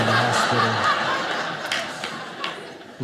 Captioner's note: audience laughing